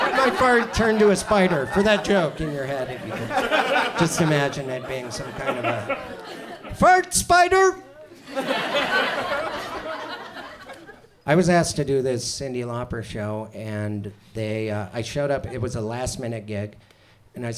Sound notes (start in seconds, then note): 0.0 audience laughs; 3.4 audience chuckles; 7.9 audience laughs